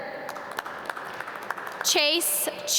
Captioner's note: audience clap